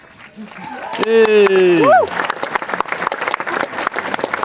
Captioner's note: applause